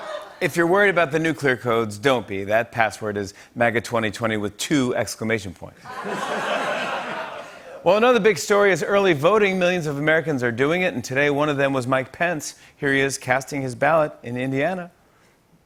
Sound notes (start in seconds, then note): 5.8 laughter